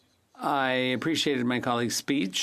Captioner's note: speaking French